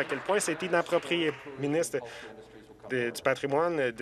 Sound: some Applause

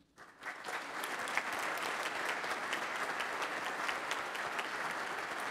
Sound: everyone applauds

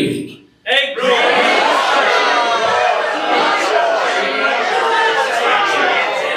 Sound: audience yells random words

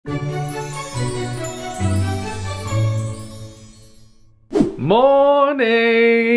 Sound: cheery playful music; twinkling

